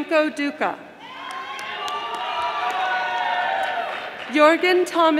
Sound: audience applauding

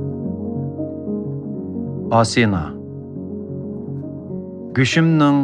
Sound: in Uyghur

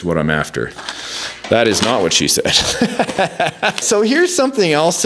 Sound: laughs

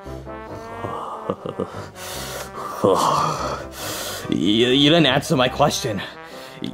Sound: breathing intensely

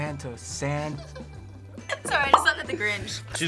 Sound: giggles

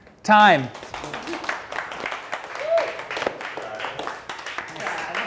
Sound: class members applauding

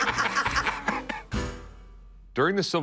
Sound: laughter

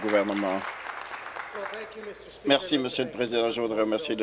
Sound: applause

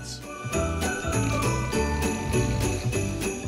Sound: loud snoring

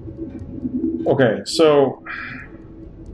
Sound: sighs

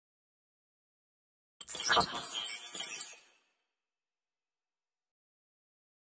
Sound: sound of computer

